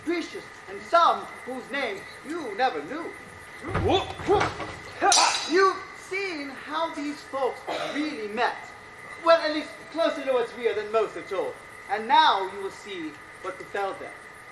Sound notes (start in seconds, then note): 4.7 swords clash